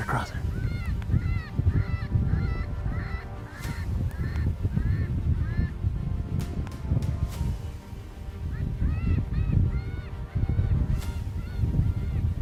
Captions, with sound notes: Comin' right across there. (coyote calls) (dramatic instrumental music)